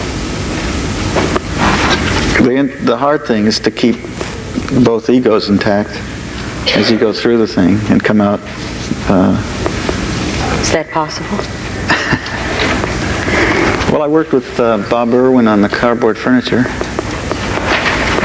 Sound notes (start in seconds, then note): 11.8 Frank laughs